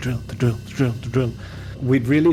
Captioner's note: inhales